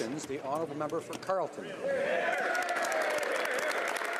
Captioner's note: speaking French